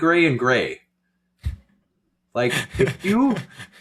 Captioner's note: laughing